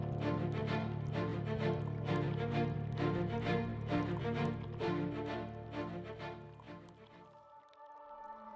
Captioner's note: ice clinking